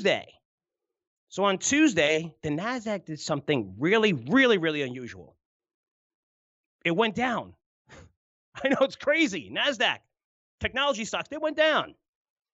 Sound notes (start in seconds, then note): 8.6 chuckles